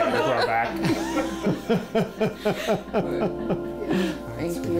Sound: laughing

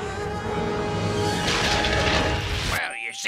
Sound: thundering

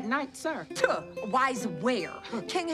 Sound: scoffs

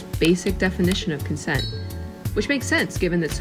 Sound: bell rings

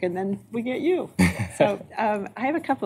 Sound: laughter

